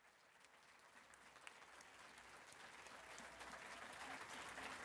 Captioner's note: audience applause